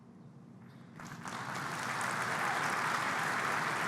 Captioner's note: applause